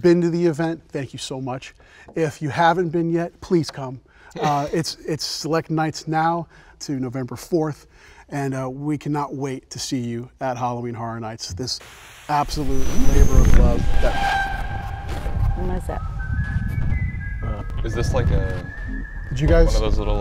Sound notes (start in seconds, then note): 13.7 haunting music; 14.0 static hissing